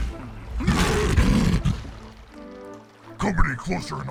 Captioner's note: ਸ਼ੇਰ ਗਰਜਦਾ